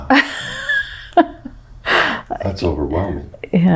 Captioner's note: laughs